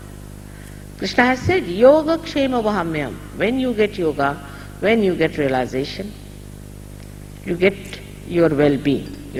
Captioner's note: hindi talk